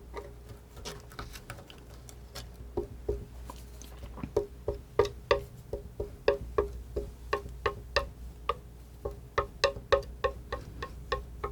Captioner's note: tapping